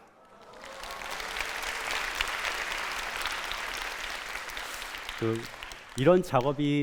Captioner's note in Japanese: 拍手